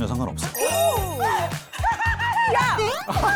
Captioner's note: hopeful sound effect